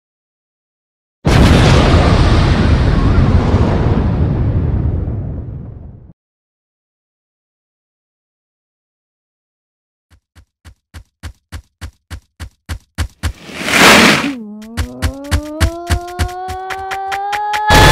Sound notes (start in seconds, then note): 1.2 explosion; 10.1 approaching footsteps; 14.3 fading footsteps